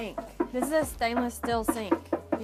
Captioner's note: knocking